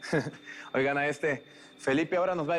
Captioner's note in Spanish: Risas